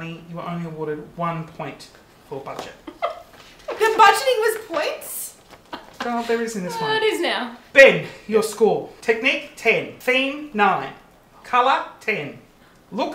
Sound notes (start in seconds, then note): 3.0 giggles